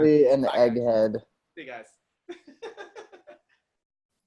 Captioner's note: laughs